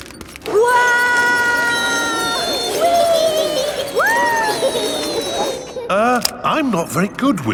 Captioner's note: all yelling